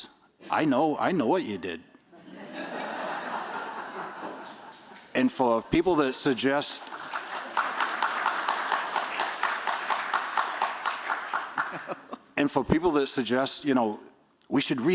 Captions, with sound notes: I know what you did. [laughter] And for people that suggest-- [applause] And for people that suggest, we should read it